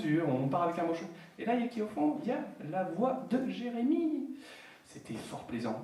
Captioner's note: french